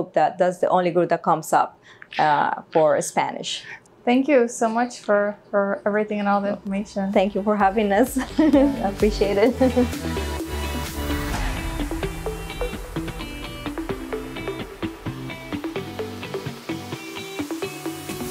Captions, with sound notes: that does, the only group that comes up for Spanish. - Thank you so much for everything and all the information. - Thank you for having us. [laughing] Appreciate it. [bright theme music]